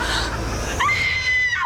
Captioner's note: Linda screams